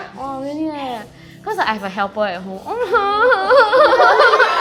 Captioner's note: crying noises